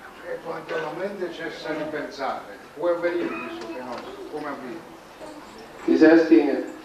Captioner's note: italian